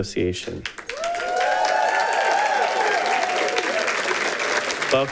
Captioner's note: audience applauding